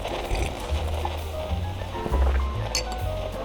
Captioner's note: sips wine fx